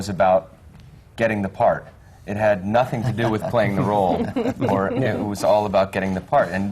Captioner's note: laughter